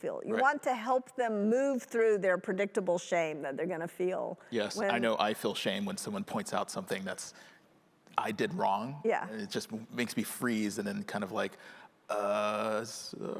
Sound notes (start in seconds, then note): none